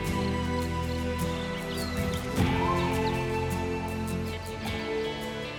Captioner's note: birds and insects chirp